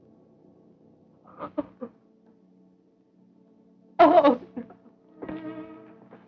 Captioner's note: sobbing